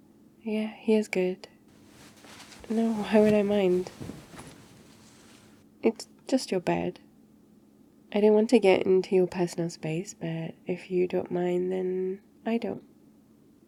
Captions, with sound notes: yeah, here's good *shuffling* no, why would I mind? it's just your bed I didn't want to get into your personal but if you don't mind then... I don't